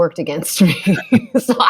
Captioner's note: laughter